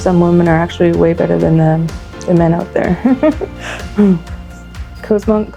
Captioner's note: laughs